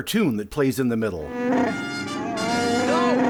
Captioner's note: Chewie growls